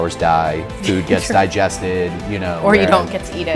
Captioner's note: laughs